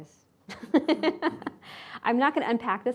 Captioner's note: laughing